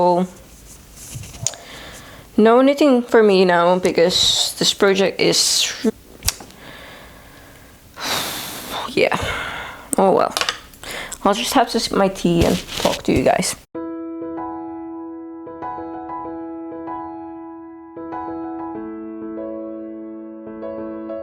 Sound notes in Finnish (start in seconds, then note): 9.2 huokaus